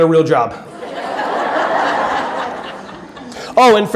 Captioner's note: audience laughing